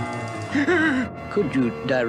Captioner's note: Adam West Gasps